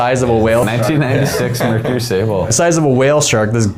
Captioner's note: laughing